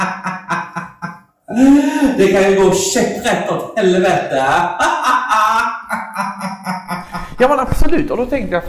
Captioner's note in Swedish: skrattar; skrattar